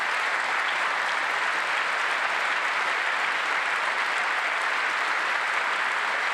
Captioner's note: applause